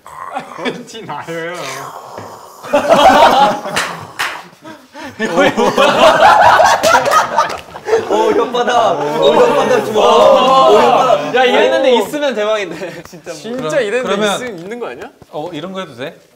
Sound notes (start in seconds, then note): 1.5 slurping